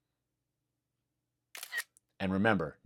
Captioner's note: camera Click